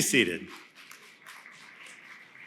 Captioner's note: applause